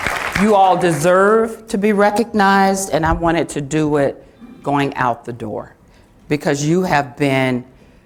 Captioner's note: applause